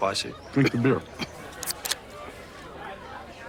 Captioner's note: can opening